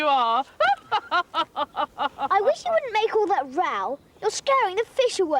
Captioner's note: laughs